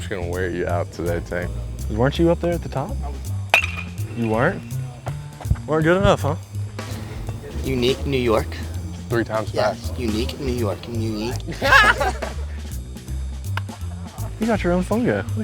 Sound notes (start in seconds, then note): 3.5 bat hits ball; 11.3 tongue-tied; 11.4 laughter